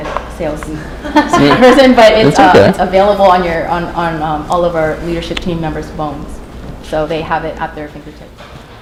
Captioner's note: chuckle